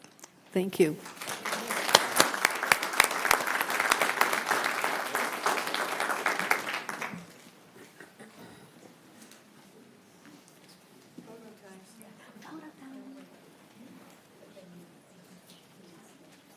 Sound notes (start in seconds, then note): 11.1 applause